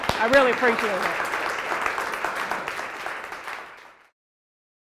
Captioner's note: applause